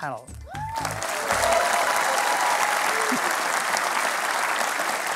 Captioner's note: cheering and applause